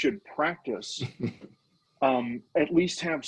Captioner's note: laughing